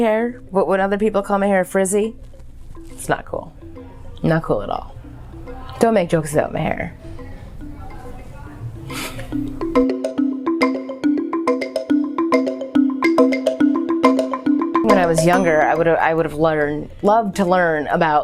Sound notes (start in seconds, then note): 8.8 laughs